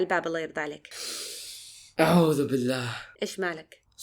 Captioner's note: deep breath